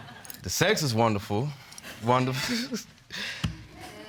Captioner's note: chuckles